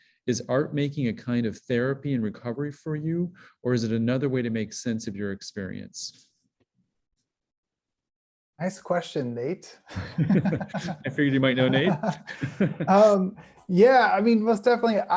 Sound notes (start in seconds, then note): 9.9 chuckling; 11.6 chuckles